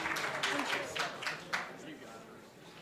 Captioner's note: applause